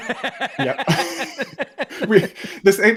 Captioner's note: laughter